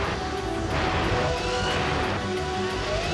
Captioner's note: revving